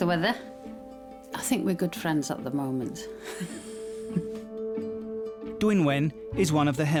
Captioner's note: chuckling